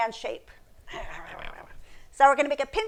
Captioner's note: playfully growling